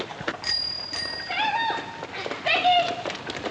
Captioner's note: bicycle bell dinging